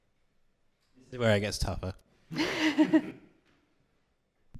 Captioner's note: laughter